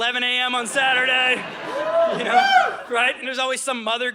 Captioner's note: audience laughing